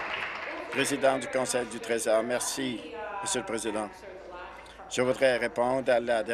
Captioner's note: applause